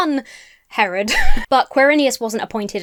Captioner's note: laughs